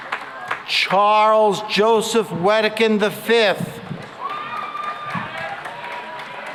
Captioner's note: cheering and applause